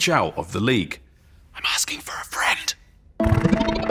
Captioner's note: whispers